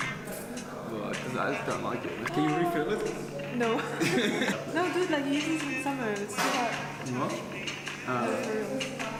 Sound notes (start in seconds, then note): 3.8 laughter; 6.7 mumbles